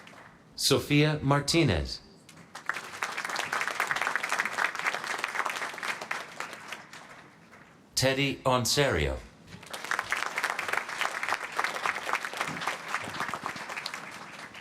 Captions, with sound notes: Sofia Martinez. [APPLAUSE] Teddy Onserio. [APPLAUSE]